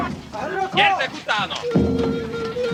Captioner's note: speaking Egyptian